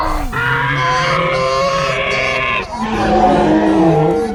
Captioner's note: tyrannosauric roar; bigger tyrannosauric roar